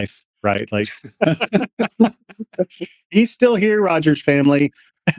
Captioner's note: laughter